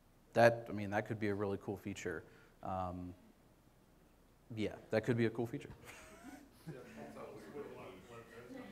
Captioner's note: chuckles